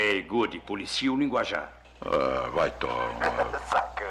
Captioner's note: chuckles